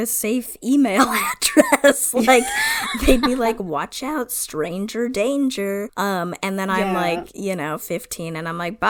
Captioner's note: laughs